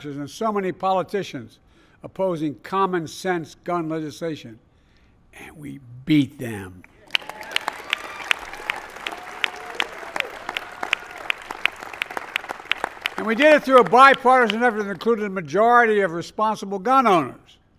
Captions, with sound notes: and so many politicians opposing commonsense gun legislation. And we beat them. (Applause.) And we did it through a bipartisan effort that included the majority of responsible gun owners.